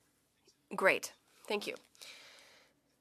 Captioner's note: speaking French